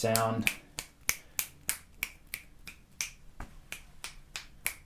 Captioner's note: snaps fingers